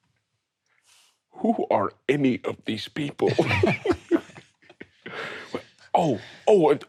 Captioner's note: all chuckling